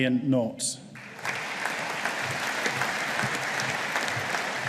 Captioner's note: audience applauding